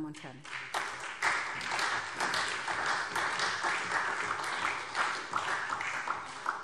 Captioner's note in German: Beifall SPD